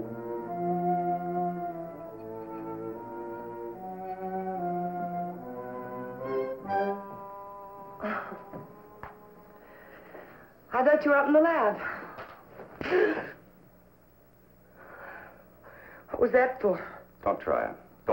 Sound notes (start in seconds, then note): 12.3 smack; 13.1 gasp